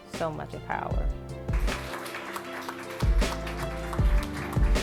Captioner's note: applause